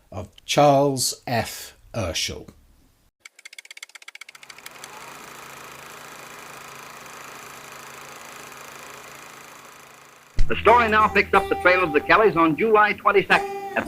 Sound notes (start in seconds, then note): 3.2 typewriter typing; 4.2 projector whirring